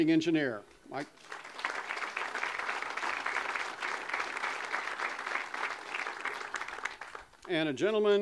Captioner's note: audience applause